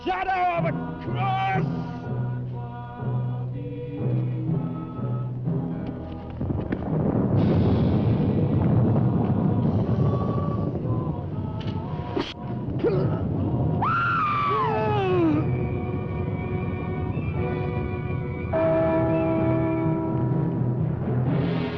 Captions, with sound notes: Shadow of a cross. (thunder rumbling) (Bill grunting) (Pat screaming) (bell chiming)